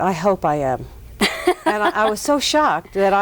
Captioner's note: laughs